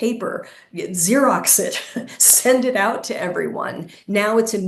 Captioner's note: chuckling